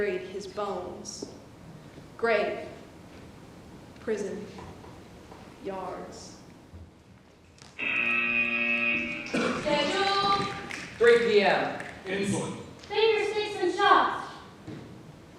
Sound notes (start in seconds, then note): 7.8 buzzer